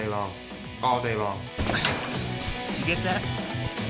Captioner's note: unlocks gate